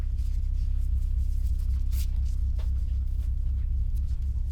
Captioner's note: ominous music; the rustle of the ropes being tied